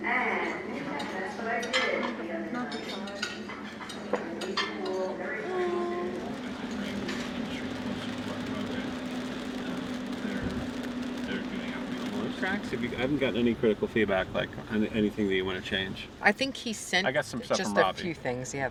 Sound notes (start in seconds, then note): 2.6 utensils clinking; 6.0 rain pattering; 6.8 engine humming